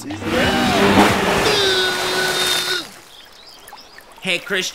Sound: loud engine

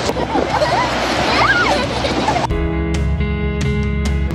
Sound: kids giggling

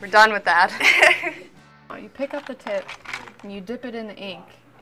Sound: laugh

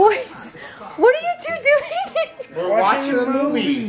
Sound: laughs

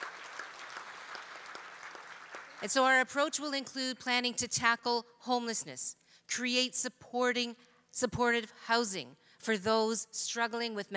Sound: cheering

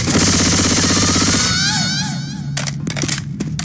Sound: deathscream SFX

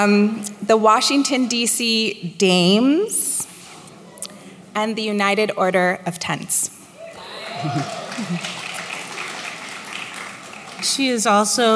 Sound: applause

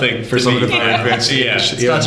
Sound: laughter

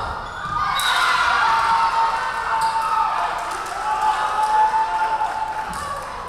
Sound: crowd cheering; referee whistling

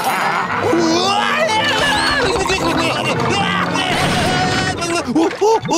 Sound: screaming

